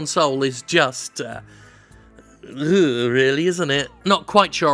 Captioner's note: groans